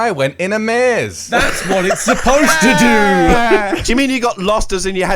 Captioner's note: laughs